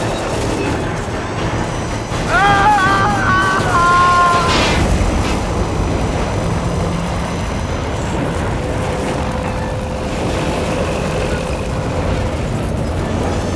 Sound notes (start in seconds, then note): 2.2 screaming Continues